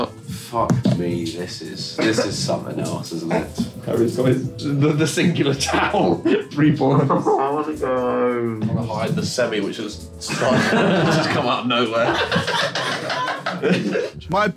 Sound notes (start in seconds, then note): 5.8 indistinct chattering; 12.1 laughing